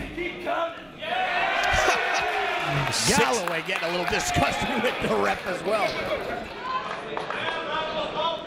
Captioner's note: laugh